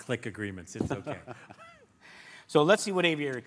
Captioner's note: laughter